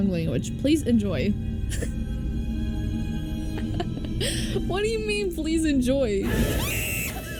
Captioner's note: confused chuckle